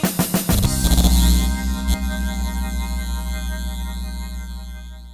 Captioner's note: object buzzing